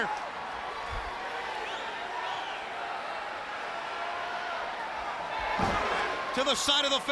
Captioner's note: crowd chatter